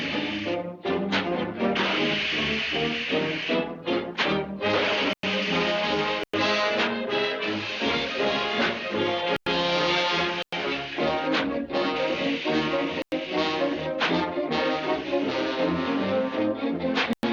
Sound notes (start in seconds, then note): 3.9 whistle; 10.6 whistle; 14.7 whistle